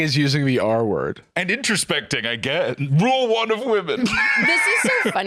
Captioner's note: laughs